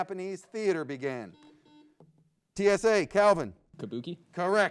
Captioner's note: buzzer beeps